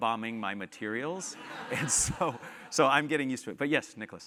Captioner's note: laugh